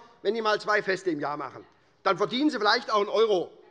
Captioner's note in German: none